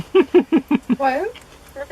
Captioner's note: laughter